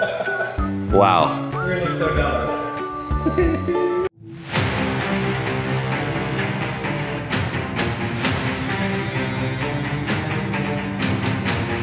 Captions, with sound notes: Wow! - We're gonna get so done. (laughs) (dramatic music)